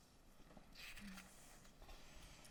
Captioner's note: none